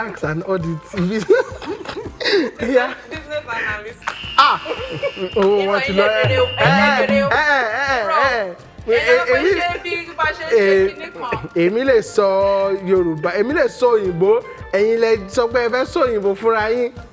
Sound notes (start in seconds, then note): 0.7 laughs